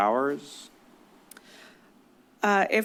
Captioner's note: clicks tongue